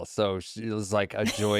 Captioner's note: laughs